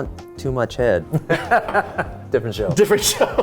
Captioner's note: laughing